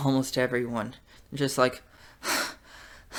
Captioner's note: hyperventilates